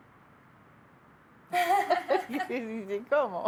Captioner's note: laughs